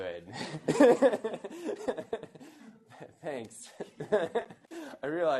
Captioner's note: laughs